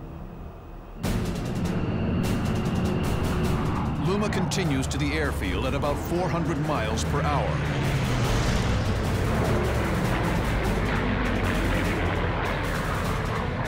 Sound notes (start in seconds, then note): 0.8 dramatic music plays; 0.8 engines roaring